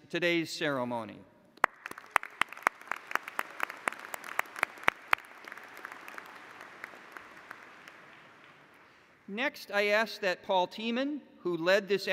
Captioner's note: applause